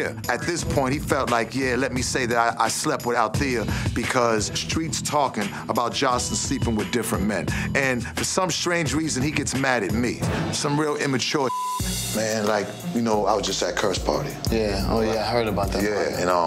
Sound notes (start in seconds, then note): 11.4 beep